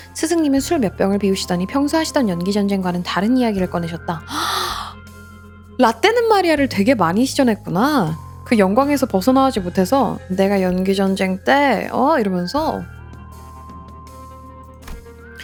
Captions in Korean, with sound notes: 스승님은 술 몇 병을 비우시더니 평소하시던 연기 전쟁과는 다른 이야기를 꺼내셨다. [헉 소리] 라떼는 마리아를 되게 많이 시전했구나. 그 영광에서 벗어나오지 못해서 내가 연기 전쟁 때 어 이러면서